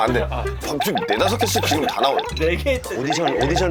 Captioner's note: nattering, nattering, nattering